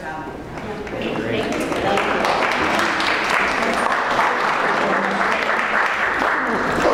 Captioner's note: applause